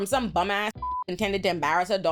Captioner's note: beep